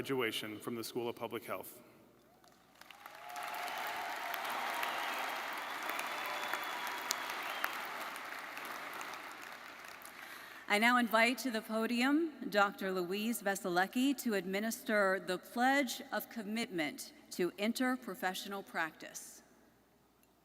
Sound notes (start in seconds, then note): 3.2 audience whistling; 3.4 audience applauding; 4.6 audience cheering